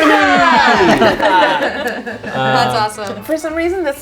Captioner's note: group laughs